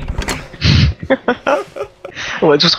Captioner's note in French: Rire